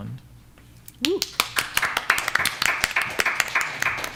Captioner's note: applause